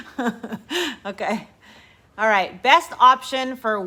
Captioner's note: chuckling